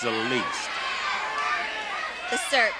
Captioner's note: audience shouting